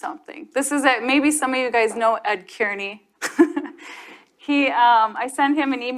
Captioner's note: chuckles